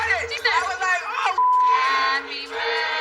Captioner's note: laughaughs